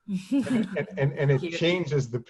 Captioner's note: laughing